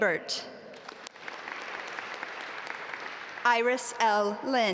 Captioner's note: audience applaud